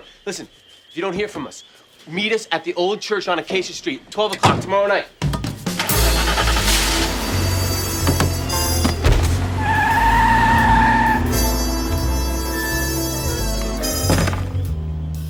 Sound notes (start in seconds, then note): 5.8 engine turns over; 10.6 tires screech